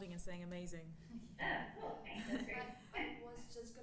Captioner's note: laughing